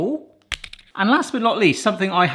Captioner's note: cheese splats